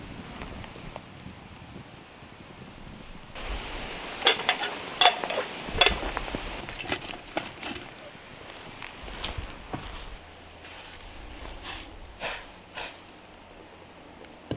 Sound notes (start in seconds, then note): 0.2 fire crackling; 3.3 clinking